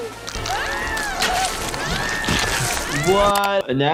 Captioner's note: Nutty gasping; Nutty screaming